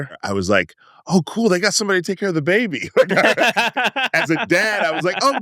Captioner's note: laughs